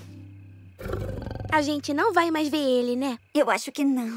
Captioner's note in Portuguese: leão ronronando